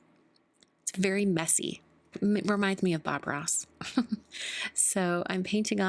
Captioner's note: chuckles